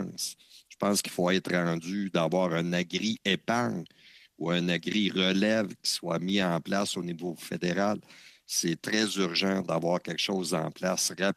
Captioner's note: speaking French